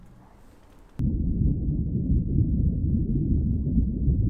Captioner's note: heart beating